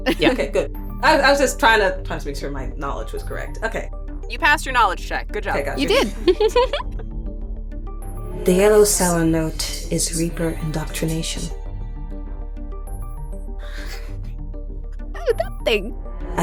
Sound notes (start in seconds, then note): 5.7 chuckles